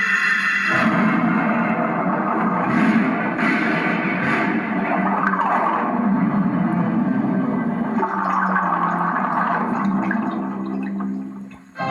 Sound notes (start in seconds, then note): 0.6 boom; 4.3 splashing; 4.9 bubbling